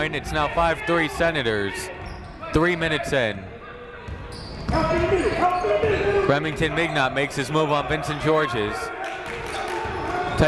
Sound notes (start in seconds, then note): 5.4 shouting